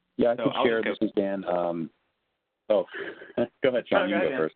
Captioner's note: overlapping muttering